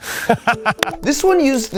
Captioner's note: person laughing